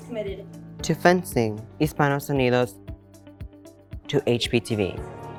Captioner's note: speaking in Spanish